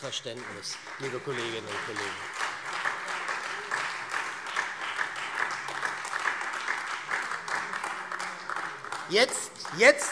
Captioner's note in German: Beifall SPD, AfD und Freie Demokraten